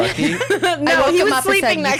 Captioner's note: laughs